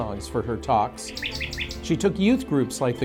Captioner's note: bird chirping